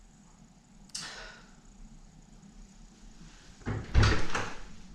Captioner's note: Leona sighs